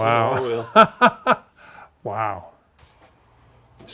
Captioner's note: laughing